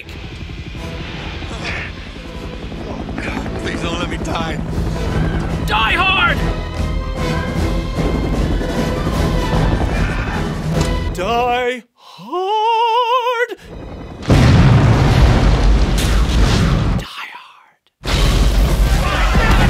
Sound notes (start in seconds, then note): 16.9 whispering